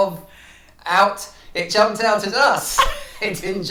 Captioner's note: laughs